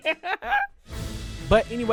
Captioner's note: laughs